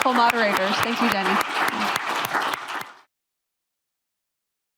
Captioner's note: applause